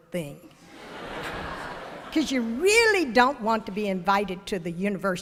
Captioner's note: ~laughter~